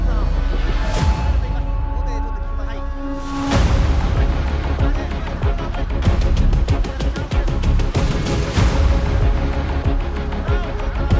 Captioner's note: crowd cheers